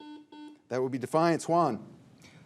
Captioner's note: signal beeps